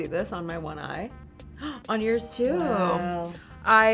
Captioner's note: gasps